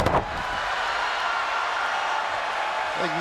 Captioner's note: crowd reacts